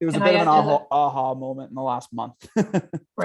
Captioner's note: laughs